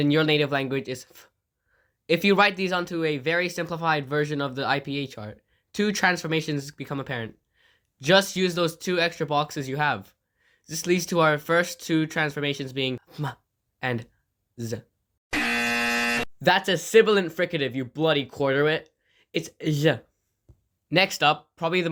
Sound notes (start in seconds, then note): 15.3 extremely loud incorrect buzzer